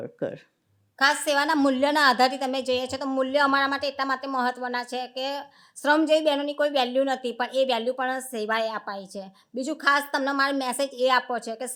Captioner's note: speaking gujarati